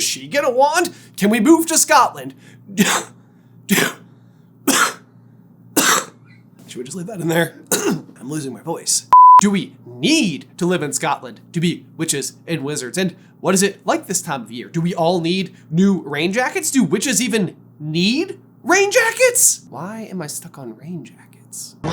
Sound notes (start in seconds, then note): 3.1 cough x2; 3.7 cough; 4.6 cough x3; 4.6 cough x4; 6.5 raspy